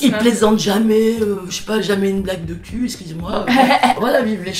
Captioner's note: laughs